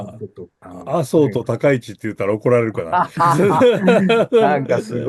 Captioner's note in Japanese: 笑い